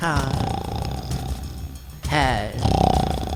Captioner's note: snoring